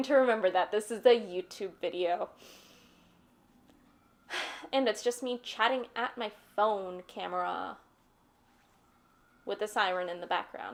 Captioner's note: siren starts